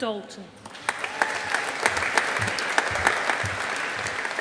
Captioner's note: audience applauding